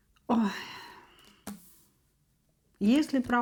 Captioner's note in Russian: вздыхает